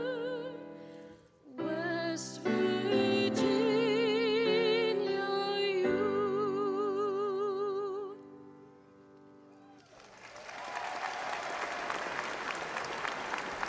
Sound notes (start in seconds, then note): 9.6 audience applauding